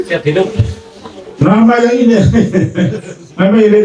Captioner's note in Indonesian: tertawa